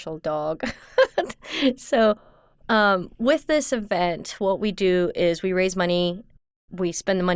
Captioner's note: laughs